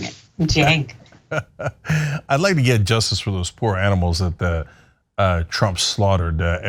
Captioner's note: laugh